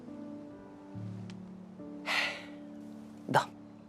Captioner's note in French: soupirs